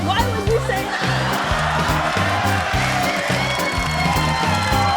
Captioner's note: cheering, applause